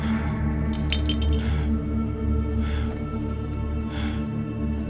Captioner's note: blade clinking